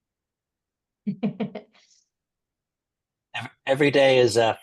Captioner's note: chuckling